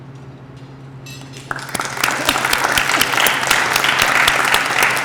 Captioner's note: applause